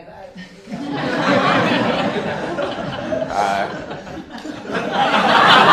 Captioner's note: laughter